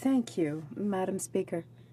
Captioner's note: speaking French